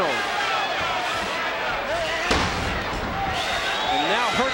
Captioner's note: crowd clamoring